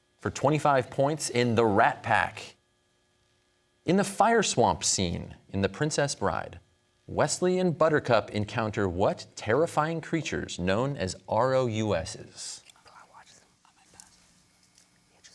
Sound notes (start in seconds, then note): 12.7 whispers